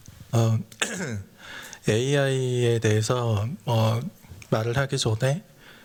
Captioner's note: speaking japanese